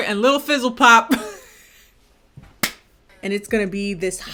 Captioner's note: laughs